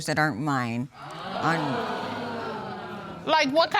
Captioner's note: audience exclaiming